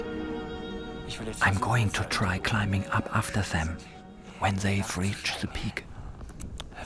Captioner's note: in German